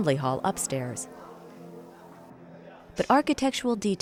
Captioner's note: pleasant upbeat piano music; muffled chatter